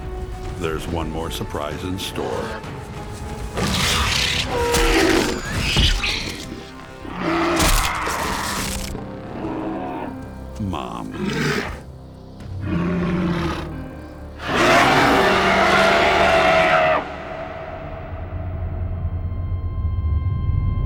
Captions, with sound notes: There's one more surprise in store... Mom. [roars]